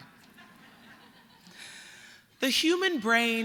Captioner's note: laughter